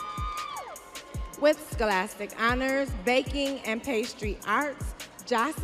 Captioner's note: audience cheering